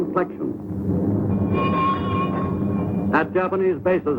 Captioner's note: bell ringing